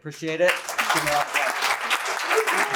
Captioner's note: applause